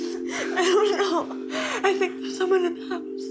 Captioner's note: cries